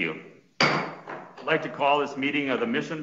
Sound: gavel pounding

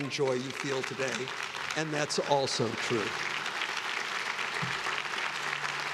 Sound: students cheering

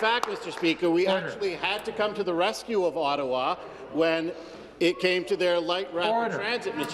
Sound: applause

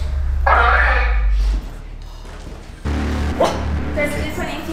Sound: intense music; megaphone blaring; intense music

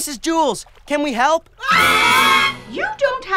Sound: screaming

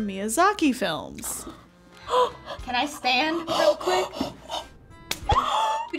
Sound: gasps

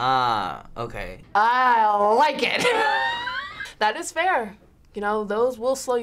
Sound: laughs

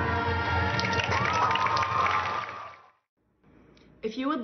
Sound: students applauding

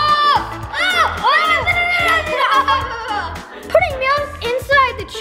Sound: excited screaming

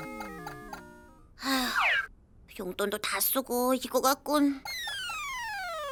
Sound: sighing

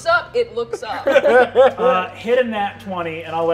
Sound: players laughing

